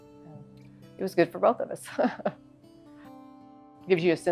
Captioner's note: chuckles